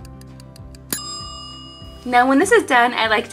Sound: timer ticking; timer dings

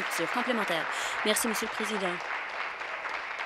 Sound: applause

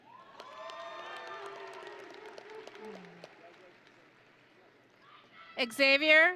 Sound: audience and graduates cheering

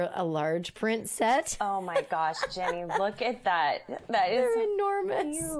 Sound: laughs

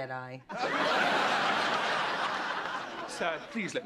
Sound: laughter

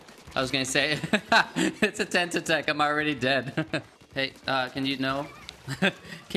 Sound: laughs

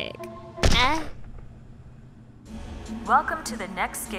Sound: gunshot

